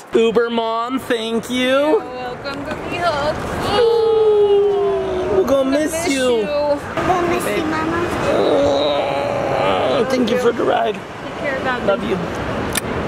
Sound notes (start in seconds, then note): 3.6 mom groans; 3.6 groans; 8.2 groans